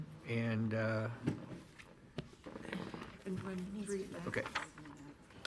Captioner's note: members chattering